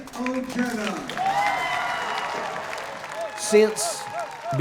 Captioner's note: cheering